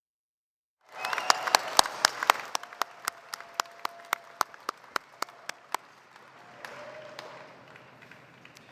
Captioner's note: applause